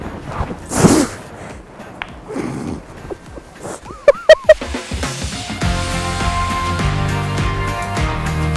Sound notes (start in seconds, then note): 2.1 laughing; 3.8 upbeat music